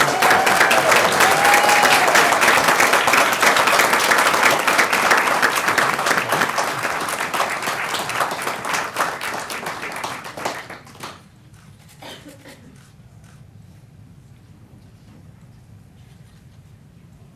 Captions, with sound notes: IT'S A WAY OF LETTING YOU KNOW THAT THE DOOR IS OPEN FOR YOU THAT THE DOOR IS OPEN FOR YOU HERE AT CITY HALL. HERE AT CITY HALL. CONGRATULATIONS, JOEY. CONGRATULATIONS, JOEY. [ APPLAUSE ]